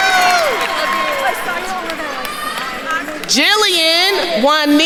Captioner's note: attendees cheering and applauding; group chattering